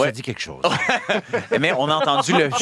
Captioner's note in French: rires